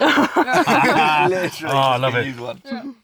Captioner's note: laughs